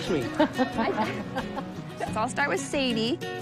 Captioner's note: woman chuckles